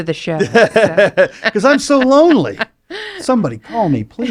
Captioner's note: laughs